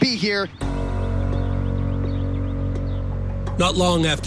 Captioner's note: birds singing